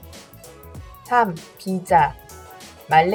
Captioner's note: Korean